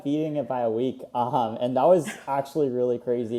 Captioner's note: laughs